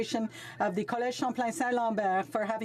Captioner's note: speaking French